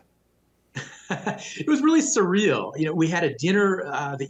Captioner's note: chuckling